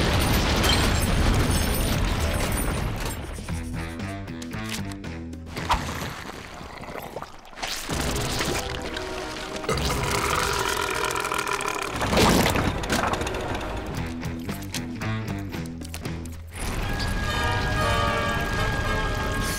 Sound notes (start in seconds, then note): 9.8 belching